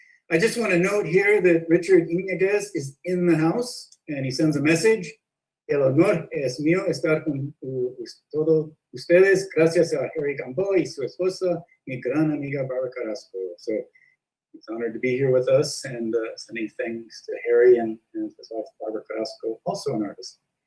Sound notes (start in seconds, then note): 5.8 in Spanish